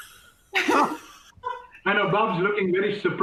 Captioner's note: laughter